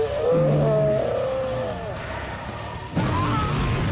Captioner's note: distorted yell